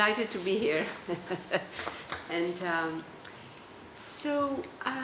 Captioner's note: laughter